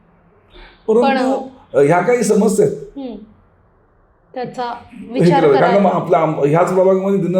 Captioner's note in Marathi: हास्य